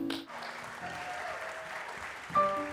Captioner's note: audience applause